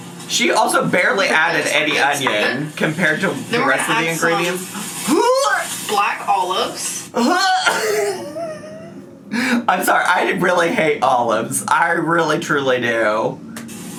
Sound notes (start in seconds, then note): 7.1 imitates puking